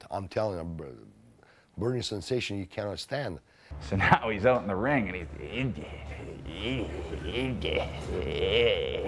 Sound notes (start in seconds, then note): 4.9 grunts